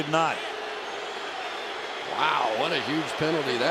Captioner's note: booing